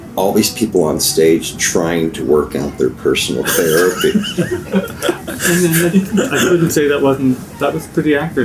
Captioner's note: laughter